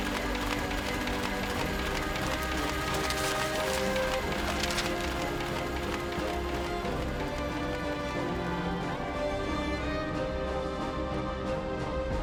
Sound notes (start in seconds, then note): 2.8 newspaper crinkling; 2.8 orchestral music continues